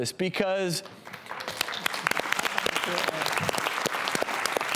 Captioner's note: crowd applause